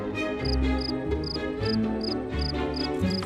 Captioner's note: crickets chirping